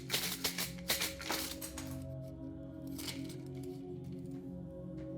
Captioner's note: wooden sticks shaking together